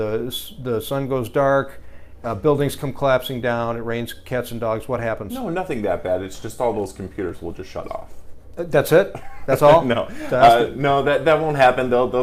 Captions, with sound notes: The sun goes dark, buildings come collapsing down, it rains cats and dogs, what happens? - No, nothing that bad. It's just all those computers will just shut off. - That's it? (laughing) That's all? - No. No, that won't happen though.